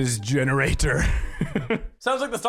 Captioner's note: chuckles